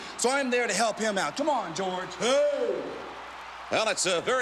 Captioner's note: George yells wordlessly